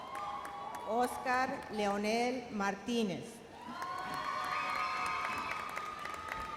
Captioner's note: audience cheers and applauds